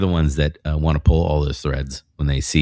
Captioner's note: uh